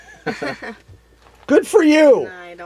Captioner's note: laughs